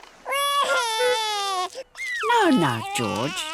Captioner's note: wailing